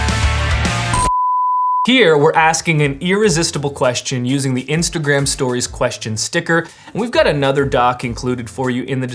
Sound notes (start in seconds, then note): 0.9 beep